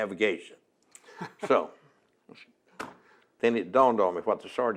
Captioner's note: laughs